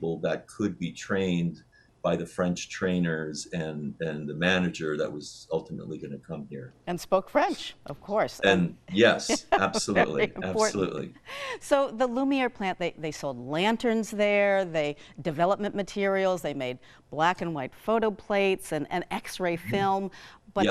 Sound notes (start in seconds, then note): 8.4 laughing